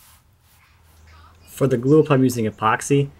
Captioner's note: none